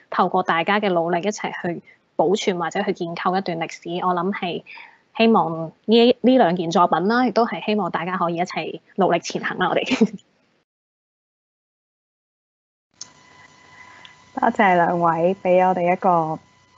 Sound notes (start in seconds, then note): 9.9 chuckles; 14.6 Cantonese